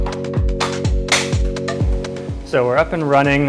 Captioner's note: bike clicks into place